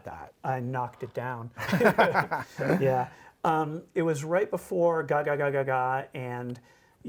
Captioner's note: laughter